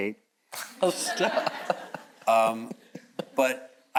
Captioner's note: all chuckles